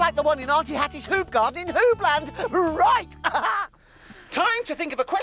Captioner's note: laughing